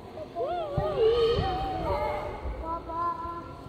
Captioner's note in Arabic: أطفال يلعبون